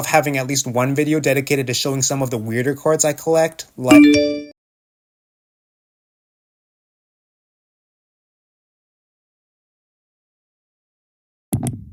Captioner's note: notification